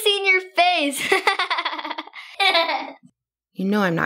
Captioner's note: Esther laughing